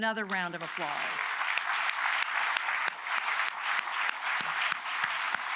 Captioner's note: audience applauds